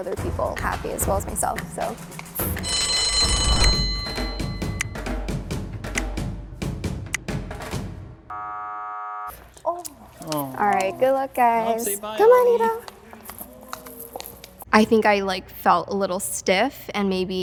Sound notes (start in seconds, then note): 2.4 bell rings; 3.7 beating drums; 8.3 buzzer sound